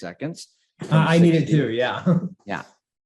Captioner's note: chuckles